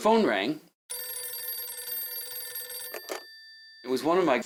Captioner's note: rotary phone rings